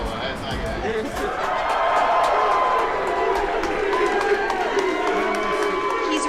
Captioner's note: crowd cheering